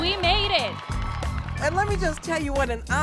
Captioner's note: crowd cheering